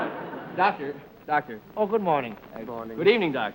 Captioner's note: german accent